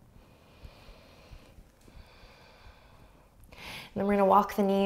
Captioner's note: relaxed breathing